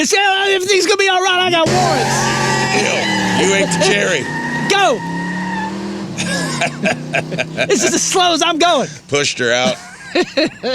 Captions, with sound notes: If things could be all right, I got warrants. [CHEERING] You ain't to cherry. Go! [LAUGHTER] It's just as slow as I'm going. Pushed her out.